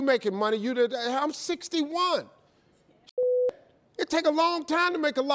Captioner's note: beep